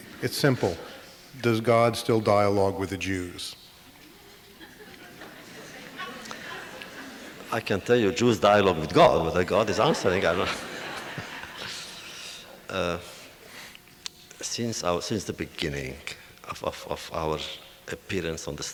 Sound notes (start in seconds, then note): 4.0 audience laughter